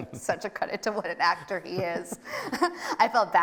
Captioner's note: both laughing